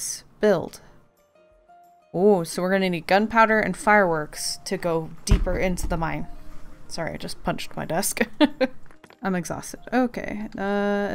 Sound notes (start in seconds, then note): 8.2 laughs